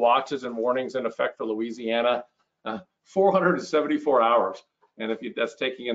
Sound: laughs

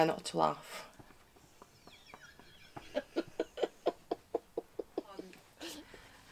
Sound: laughs

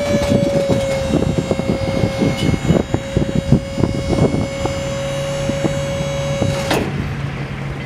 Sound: hydraulic Pump Squeals

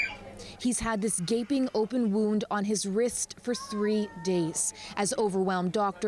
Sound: screaming

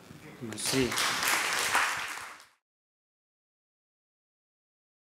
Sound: audience applauds

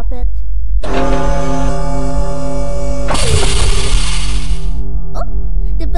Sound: machinery whirls, bell rings

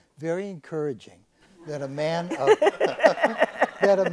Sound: audience laughs

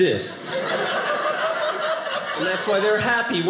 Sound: audience laughing

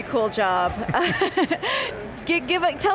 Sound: laughter

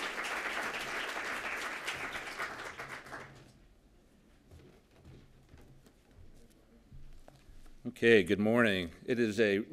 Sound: applause

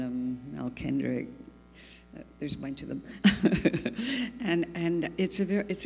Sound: laughs

